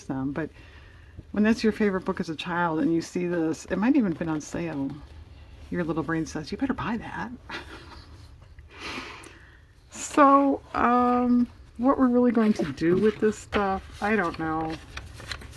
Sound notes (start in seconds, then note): 7.5 laughs